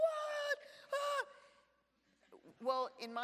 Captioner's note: screams